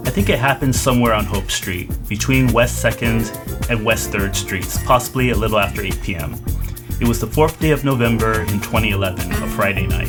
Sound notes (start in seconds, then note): none